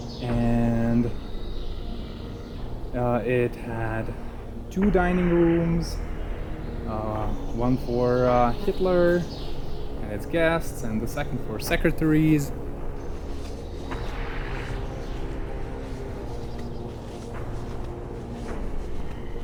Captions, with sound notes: And it had two dining rooms, one for Hitler and its guests, and the second for secretaries. (birds chirping) (suspenseful music)